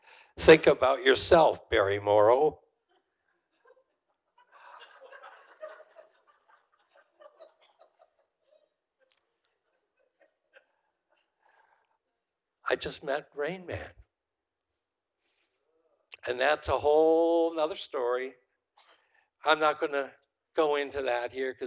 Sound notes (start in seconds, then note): 4.3 audience laughing